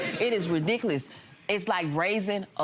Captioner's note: audience laughing